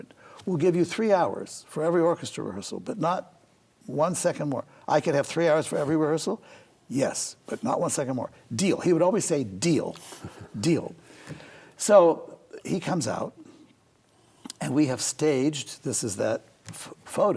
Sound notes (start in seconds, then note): 10.0 chuckles